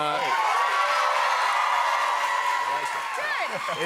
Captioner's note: cheers and applause